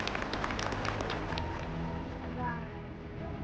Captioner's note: applause